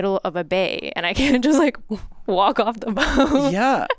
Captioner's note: chuckles